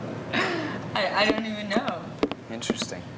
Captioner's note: laughing